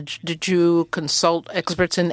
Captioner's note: speaking French